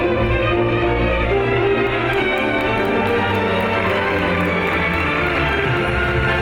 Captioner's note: audience applauds